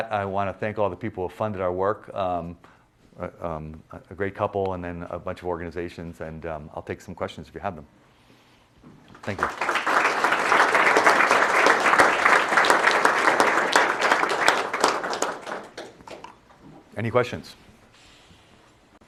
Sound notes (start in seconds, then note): 9.1 clapping